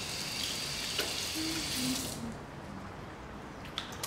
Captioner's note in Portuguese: luiza cantarolando